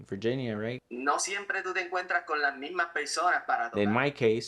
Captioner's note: speaking Spanish language